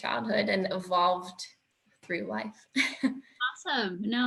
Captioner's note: chuckles